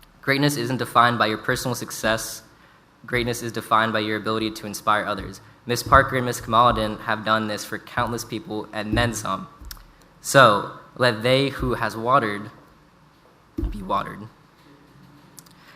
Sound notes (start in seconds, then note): none